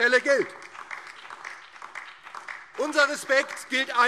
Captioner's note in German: Beifall DIE LINKE und BÜNDNIS 90/DIE GRÜNEN